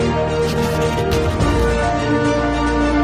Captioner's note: uplifting music; pen scratching; uplifting music